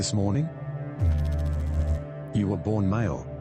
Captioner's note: electrical noise